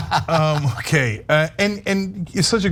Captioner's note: laugh